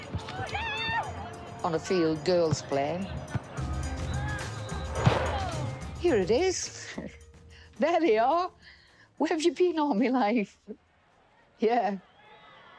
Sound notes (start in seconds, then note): 4.1 player exclaims; 5.9 music subsides